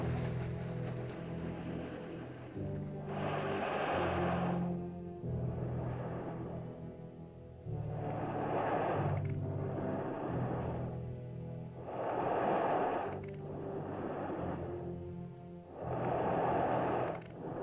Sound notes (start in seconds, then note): 0.0 ominous music; 0.0 water splashes; 1.9 dinosaur's labored breathing; 1.9 ominous music